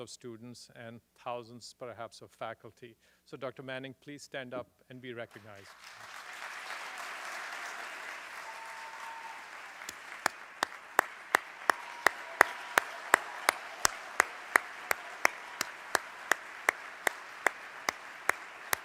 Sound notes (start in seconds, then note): 8.2 applause